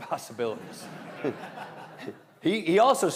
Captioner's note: all laughing